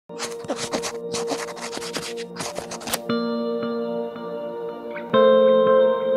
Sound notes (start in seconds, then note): 0.1 pen scratches; 3.4 gentle music